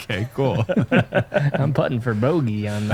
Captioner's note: laughter